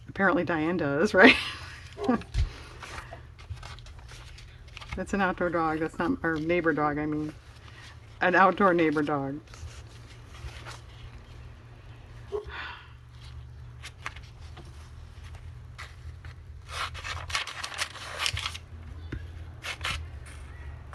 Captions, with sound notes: apparently Diane does, right? (dog barks) that's an outdoor dog, that's not-- neighbor dog, I mean, an outdoor neighbor dog